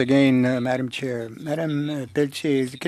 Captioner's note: speaking French